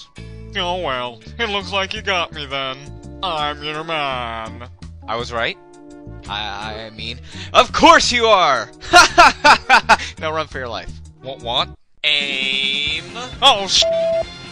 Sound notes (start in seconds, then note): 8.9 laugh